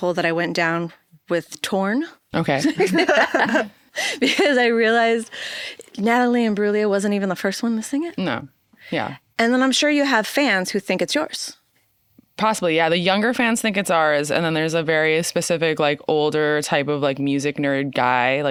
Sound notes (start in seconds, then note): 2.6 all laughing